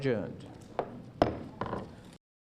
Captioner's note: gavel bangs